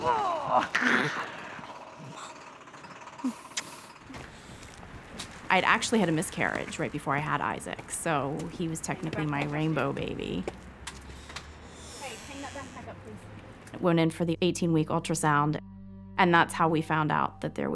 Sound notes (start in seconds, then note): 0.0 grunting; 3.4 smooching; 11.3 door creaking; 12.9 somber music